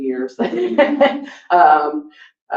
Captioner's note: laughs